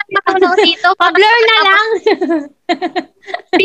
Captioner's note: laughs